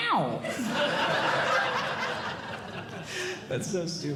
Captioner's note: audience Laughing